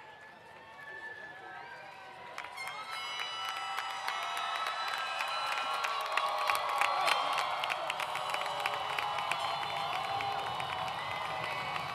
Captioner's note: applause